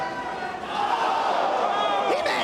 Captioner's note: spectators exclaiming